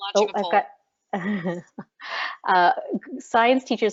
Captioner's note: laughs